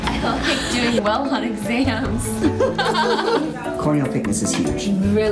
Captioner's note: laughs